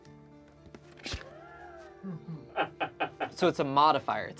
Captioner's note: slow suspenseful music; crew member laughs